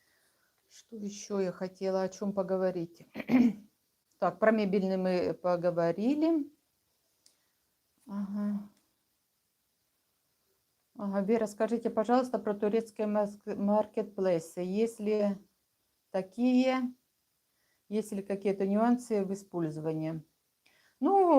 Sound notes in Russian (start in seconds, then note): 3.1 откашливается